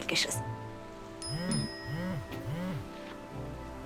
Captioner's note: phone chiming